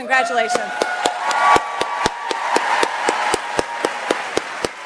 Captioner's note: audience applauds